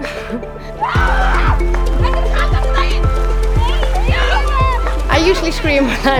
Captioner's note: screaming in Icelandic